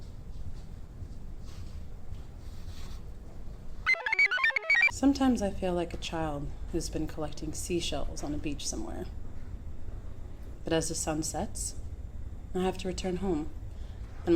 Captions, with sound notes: (computer chirps) - Sometimes, I feel like a child who's been collecting seashells on a beach somewhere. But as the sun sets, I have to return home.